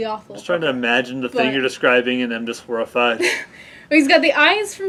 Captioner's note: laugh